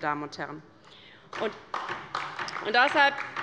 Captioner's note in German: Beifall bei der LINKEN